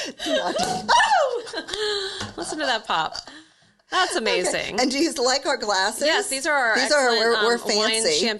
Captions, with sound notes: (cork pops) (hosts shout) - Listen to that pop, that's amazing. - And do you like our glasses? - Yes, these are our excellent- - We're fancy.